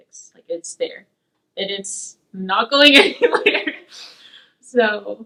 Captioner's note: laughs